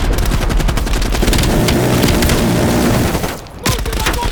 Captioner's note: gunfire